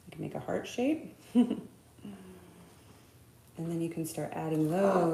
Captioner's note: laughing